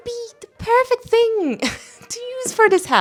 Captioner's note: laughs